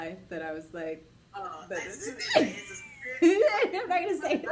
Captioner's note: laughs